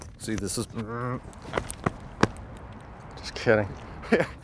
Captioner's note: footsteps thumping; laughing